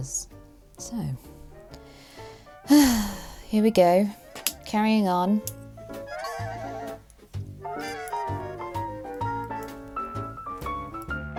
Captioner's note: sighs